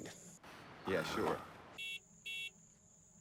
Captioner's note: car horn beeping